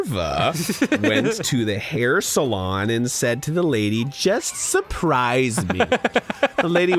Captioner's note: giggles; laughs